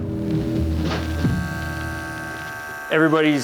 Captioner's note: razor buzzes